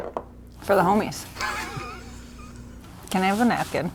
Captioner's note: chuckles